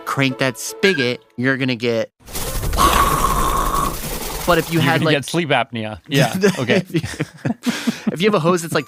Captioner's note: laughs